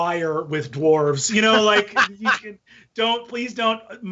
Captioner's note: laughing